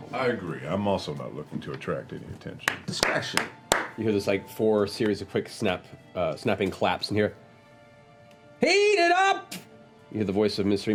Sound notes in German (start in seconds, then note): 2.6 klatscht